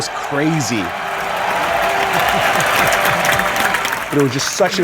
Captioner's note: roaring applause